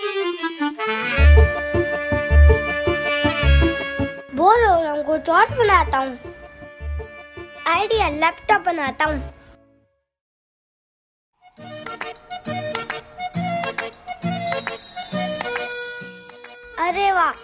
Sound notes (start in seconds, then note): 14.3 magical Sound